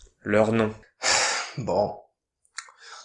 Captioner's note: sigh